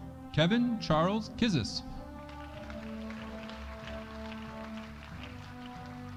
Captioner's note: audience applauding